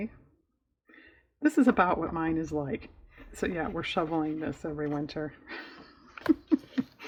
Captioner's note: laughs